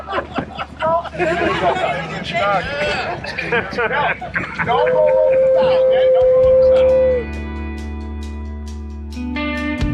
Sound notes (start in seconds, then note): 3.0 laughs; 9.1 laughs